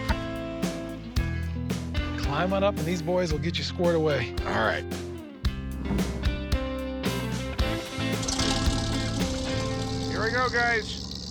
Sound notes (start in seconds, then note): 8.0 motor whirring